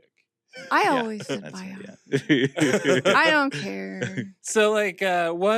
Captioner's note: chuckle